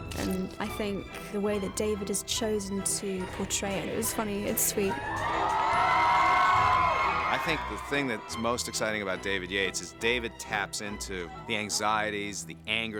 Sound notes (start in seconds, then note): 5.0 cheering